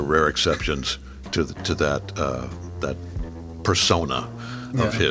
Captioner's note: chuckling